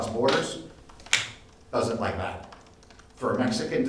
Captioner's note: snaps fingers